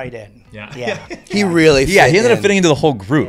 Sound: laughs

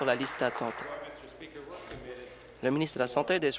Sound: applause

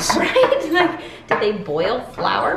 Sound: laughs

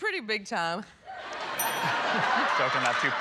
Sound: laughter

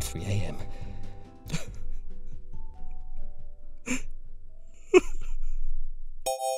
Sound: sobbing

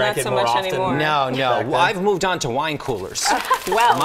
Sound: laughter

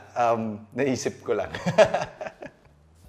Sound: laughs

